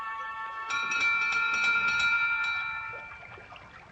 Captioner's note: door bell ringing